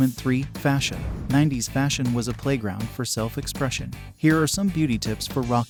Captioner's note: voiceover